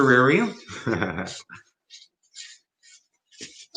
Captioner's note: chuckles